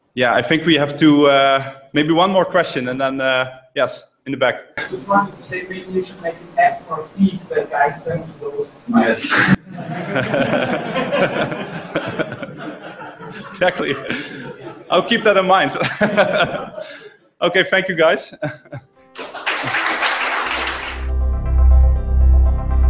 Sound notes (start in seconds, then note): 9.2 laughter; 19.1 applause